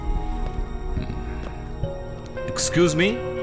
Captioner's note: chuckles